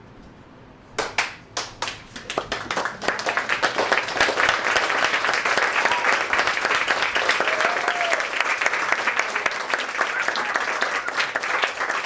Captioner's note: applause